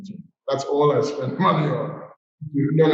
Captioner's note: chuckles